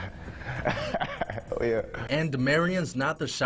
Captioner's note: laughs